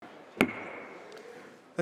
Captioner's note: gavel bangs